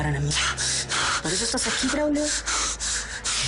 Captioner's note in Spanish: El jadea fuerte